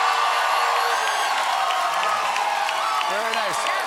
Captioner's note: cheers and applause